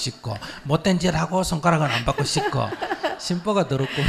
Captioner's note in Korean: 질문자 웃음